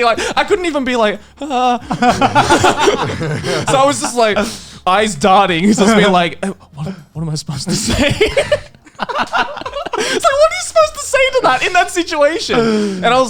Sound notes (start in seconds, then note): 1.4 laughing